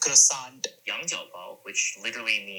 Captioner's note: man speaking in foreign language